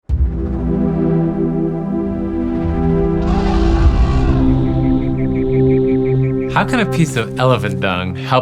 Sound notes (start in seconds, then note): 0.3 bold music; 3.0 elephant trumpeting; 5.0 birds chirping